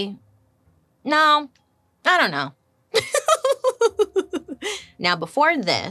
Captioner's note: laughs